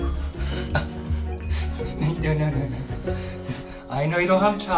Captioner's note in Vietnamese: cười